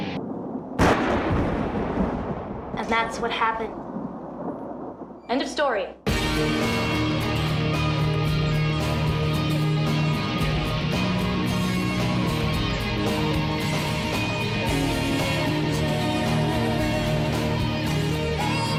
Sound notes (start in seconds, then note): 0.8 gun firing; 6.3 dramatic music